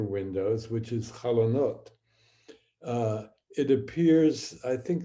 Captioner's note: speaking hebrew